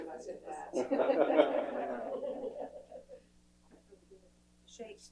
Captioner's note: laughter